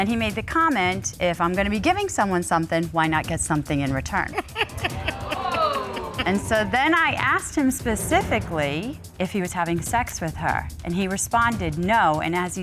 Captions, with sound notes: And then he made the comment, "If I'm gonna be giving someone something, why not get something in return." [Judge Dana Laughs] And so, then I asked him specifically if he was having sex with her and he responded, "No,"